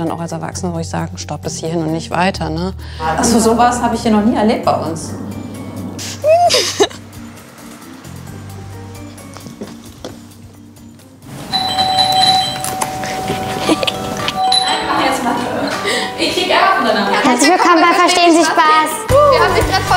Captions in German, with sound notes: Da musst du als Erwachsene sagen: Stopp, nicht weiter. So was habe ich noch nie erlebt bei uns. (Hinterlistiges Lachen, gespannte Musik) (Mehrmaliges Türklingeln) Nein, mach jetzt Mathe. Ich gehe gerne. Herzlich willkommen bei "Verstehen Sie Spaß?".